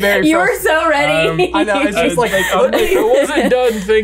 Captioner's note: laughs